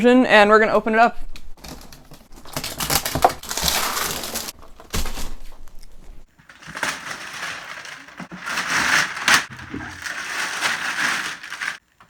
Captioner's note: unboxing sounds